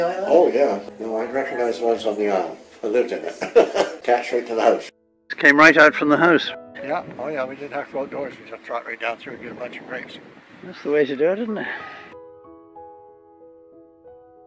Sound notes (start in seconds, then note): 3.2 laughs; 7.0 quieter